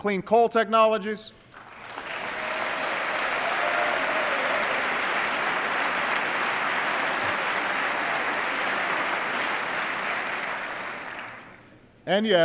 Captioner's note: applause